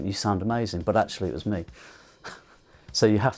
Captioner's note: chuckles